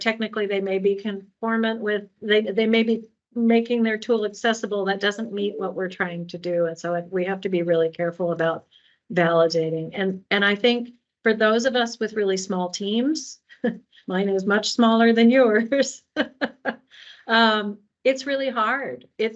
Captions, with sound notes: may be conformant with-- they may be making their tool accessible, that doesn't meet what we're trying to do. And so we have to be really careful about validating. And I think for those of us with really small teams-- [chuckle] mine is much smaller than yours-- it's really hard.